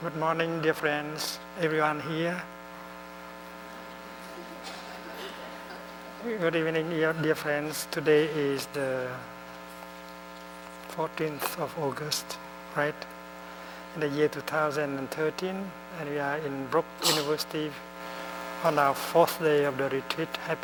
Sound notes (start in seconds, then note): 4.2 laughter